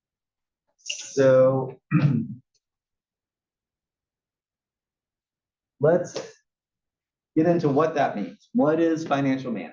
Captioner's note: cough